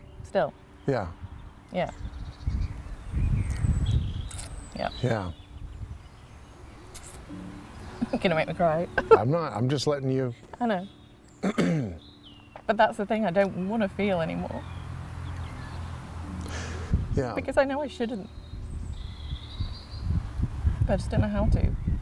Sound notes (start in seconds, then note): 8.9 chuckles; 11.4 clears throat